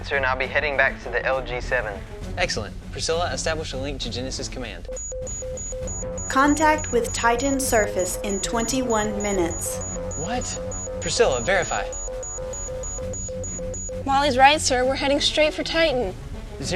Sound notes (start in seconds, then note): 4.8 warning Siren